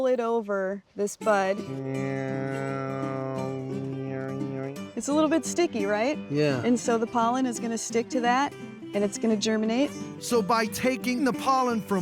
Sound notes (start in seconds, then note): 2.1 imitating buzzing